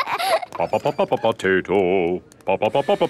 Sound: children laughing; sing-song voice

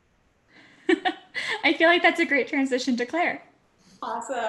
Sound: laugh

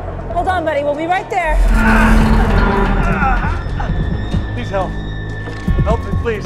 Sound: groaning

